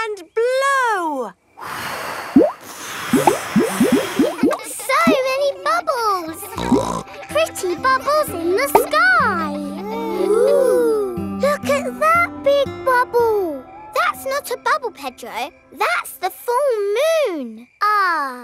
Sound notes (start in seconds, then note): 1.6 all blowing; 6.4 snorts